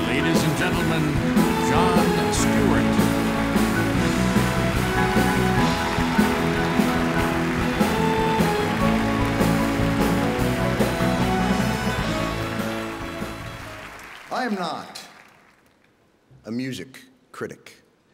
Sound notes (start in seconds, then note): 3.2 upbeat music; 12.4 audience applauding